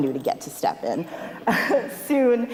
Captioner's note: laughs